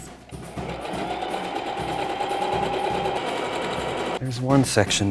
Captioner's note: sewing machine whirring